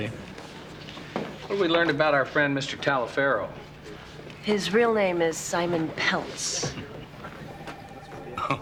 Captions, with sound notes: - What have we learned about our friend, Mr. Talifero? - His real name is Simon Peltz. (Joe chuckling)